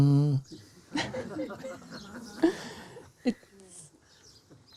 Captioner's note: laughter